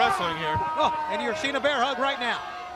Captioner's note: crowd chatter